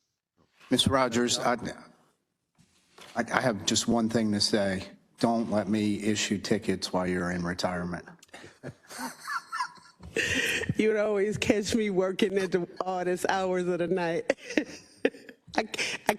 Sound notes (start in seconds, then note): 8.4 laugh; 14.2 laugh